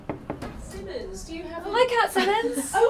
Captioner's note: knock at the door